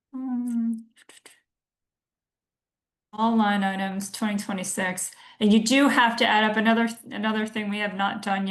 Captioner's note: humming